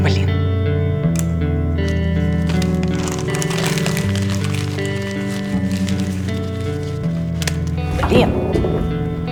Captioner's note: paper rustling